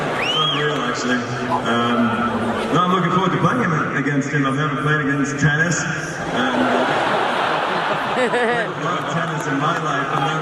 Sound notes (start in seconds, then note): 6.3 laughing